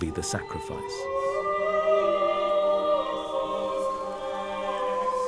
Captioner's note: German spoken audio